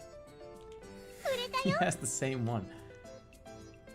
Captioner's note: giggling